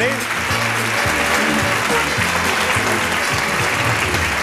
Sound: audience clapping

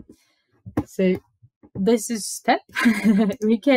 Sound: laughs

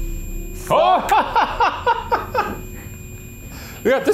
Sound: both exclaiming

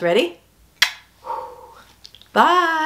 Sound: blows kiss

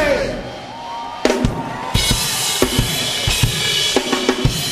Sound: audience cheering; drum beat music

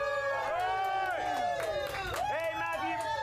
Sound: audience cheering

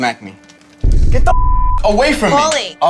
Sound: beep

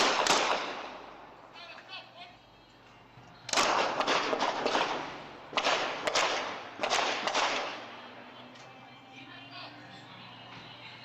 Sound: gunshots

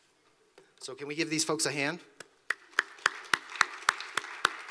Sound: applause

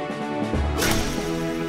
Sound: sword pierce

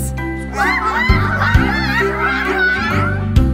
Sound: squawking

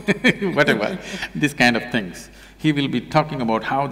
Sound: laughs

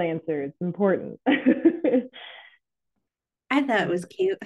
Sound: chuckles

